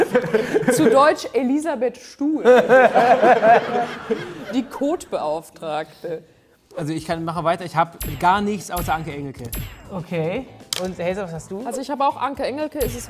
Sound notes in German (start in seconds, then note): 2.5 Lachen